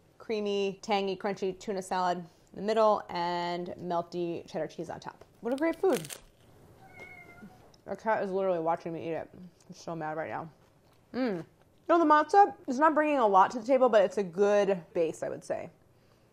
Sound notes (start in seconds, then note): 5.5 crunching; 6.8 meowing